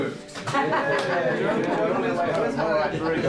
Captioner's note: chattering and laughing